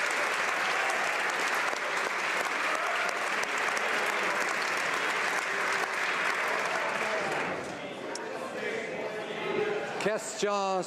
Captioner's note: applause